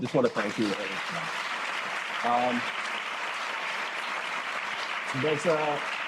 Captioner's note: applause